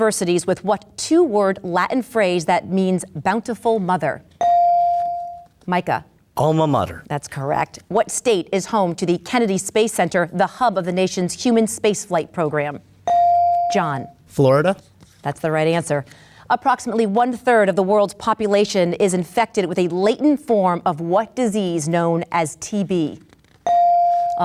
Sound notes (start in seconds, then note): 4.4 bell dings; 13.1 bell dings; 23.7 bell dings